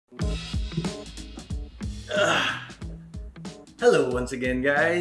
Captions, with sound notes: (grunts) Hello once again guys.